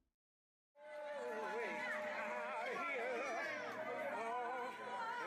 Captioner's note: people shouting